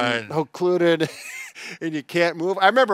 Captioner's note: laughing